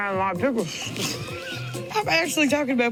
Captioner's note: both laughing